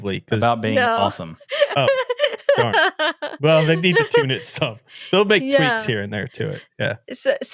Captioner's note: laughing